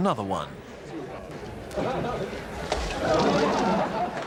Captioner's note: men laughing